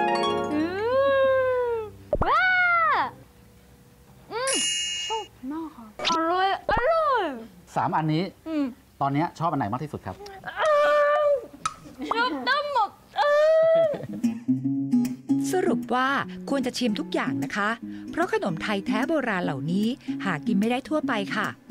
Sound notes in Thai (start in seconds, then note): 10.5 เสียงร้อง; 13.1 เสียงร้อง